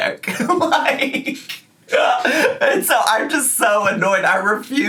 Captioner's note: laughs